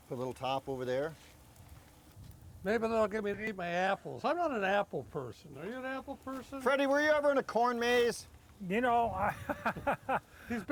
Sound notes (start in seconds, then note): 9.2 laughing